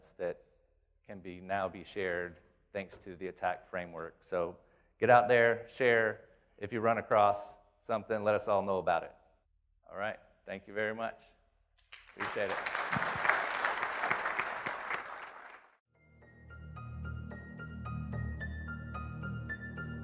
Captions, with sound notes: that can be now be shared thanks to the ATT&CK framework. So get out there, share, if you run across something, let us all know about it. Alright, thank you very much, appreciate it. (audience claps) (suspenseful music)